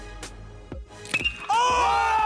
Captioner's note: bat hits ball